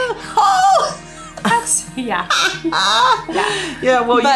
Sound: laughs

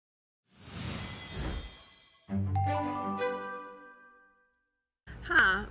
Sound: lively music; whooshing

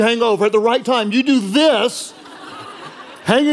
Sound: congregation laughing

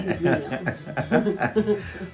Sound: laughter

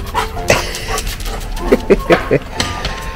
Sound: laughs

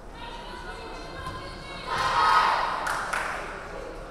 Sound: players chanting

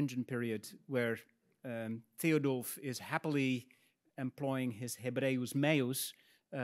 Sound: speaks in Latin

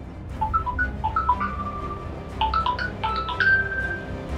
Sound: Shankar mobile ringnig

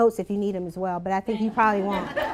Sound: laughter

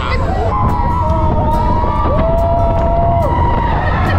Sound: both laugh; people shouting

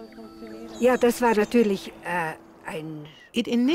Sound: speaking in foreign language

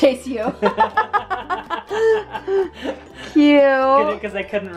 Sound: laughing

